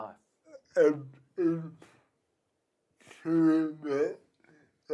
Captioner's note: murmurs